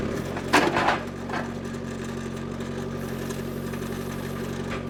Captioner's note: wood clunking